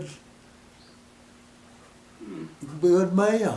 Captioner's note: pause